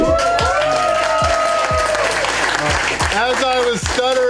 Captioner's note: crowd applause